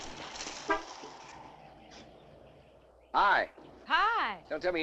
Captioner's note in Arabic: صوت بوق السيارة